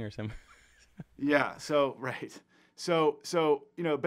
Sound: laughs

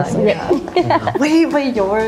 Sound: chuckles

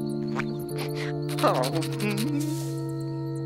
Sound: sobbing

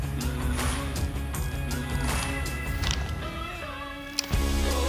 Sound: clicking optics; safety clicking

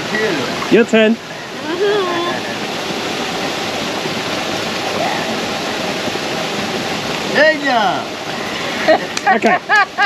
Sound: laughter

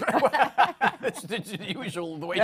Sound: laughter

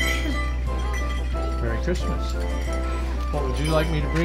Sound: bell jingles

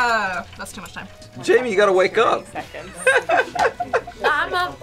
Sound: laughs

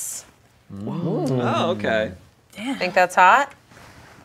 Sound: group exclaiming

